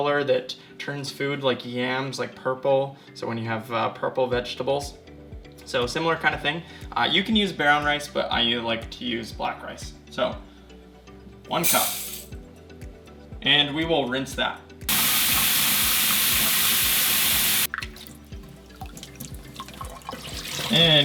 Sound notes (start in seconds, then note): 14.9 water running; 16.6 splashing